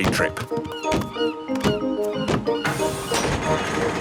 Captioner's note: gulls squawking